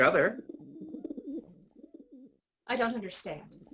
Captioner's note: pigeon sounds